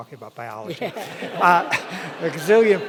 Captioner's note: audience laughing